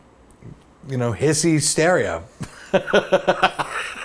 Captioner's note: laughs